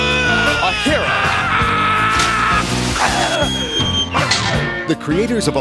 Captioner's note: screams; comic whistle; metal Clang; splash